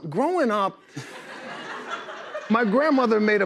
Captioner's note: laughter